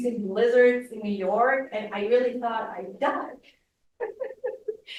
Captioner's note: laughs